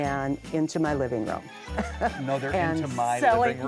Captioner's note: laughs